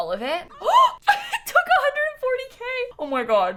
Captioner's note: gasps